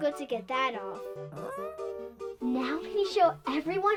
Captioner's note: dog whimpering